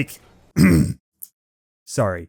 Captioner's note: clear throat